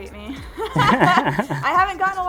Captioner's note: both laugh